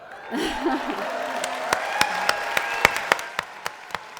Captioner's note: applause